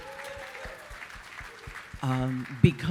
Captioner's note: audience cheering